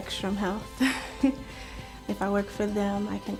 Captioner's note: chuckling